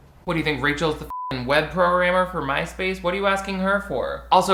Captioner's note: beep